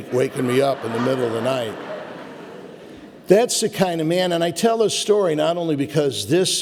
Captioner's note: audience laughter